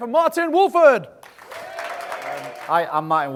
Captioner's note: audience applauds